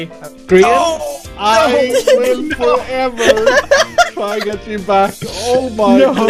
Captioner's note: laughs